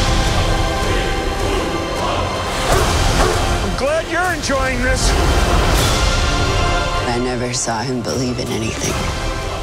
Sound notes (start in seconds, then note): 2.7 barking; 2.7 howling